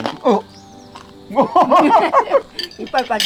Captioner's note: both laughing